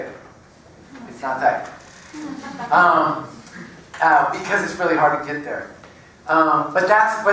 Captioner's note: laugh